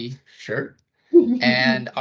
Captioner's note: chuckling